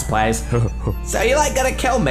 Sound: laughter

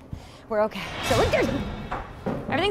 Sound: scary noise

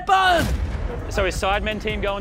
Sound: fire exploding

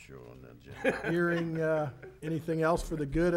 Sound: people laughing

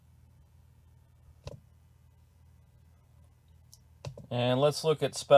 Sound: mouse clicking

